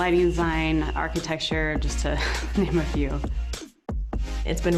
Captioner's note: laughter